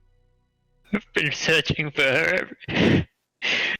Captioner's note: exhale